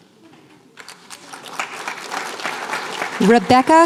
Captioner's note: applause